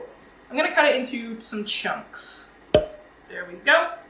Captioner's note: pop